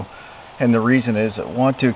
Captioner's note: squirrel chirping